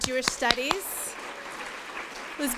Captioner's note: applause